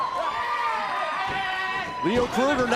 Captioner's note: crowd cheering